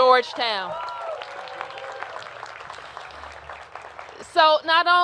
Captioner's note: cheers and applause